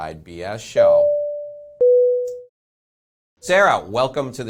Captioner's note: bell dings